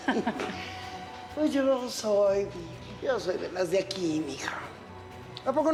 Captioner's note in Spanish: risas